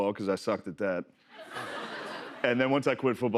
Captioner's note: laughter